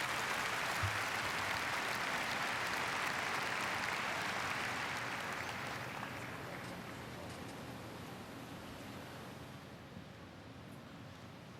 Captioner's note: apppplaususe